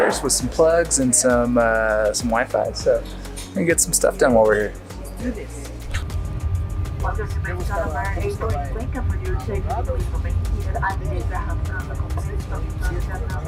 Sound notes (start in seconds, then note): 7.1 speaking foreign language